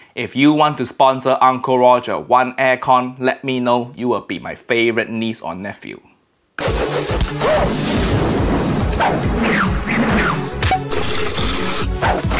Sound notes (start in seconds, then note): 6.6 upbeat music; 7.5 thunder crashing